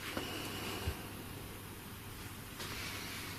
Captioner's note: none